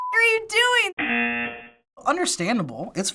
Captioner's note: buzzer